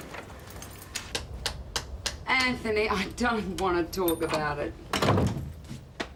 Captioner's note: taps fingers